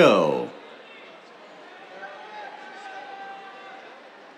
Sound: cheers

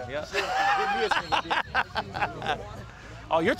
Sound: laughing

